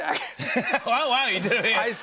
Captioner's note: laughter